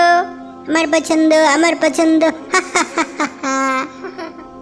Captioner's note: laughing